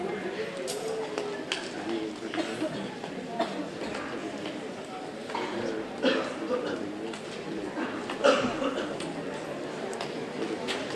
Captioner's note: background Student Conversations